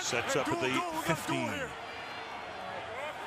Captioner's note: pa announcement